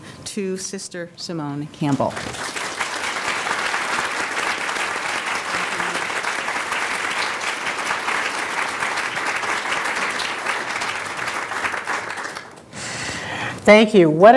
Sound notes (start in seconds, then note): 2.0 applause